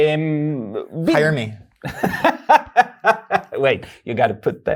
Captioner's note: laughs